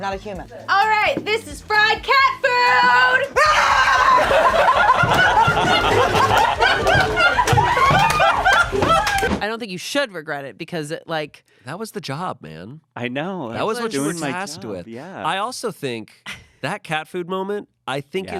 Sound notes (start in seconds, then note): 2.5 screams; 5.0 everyone laughs